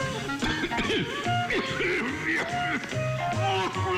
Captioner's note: coughing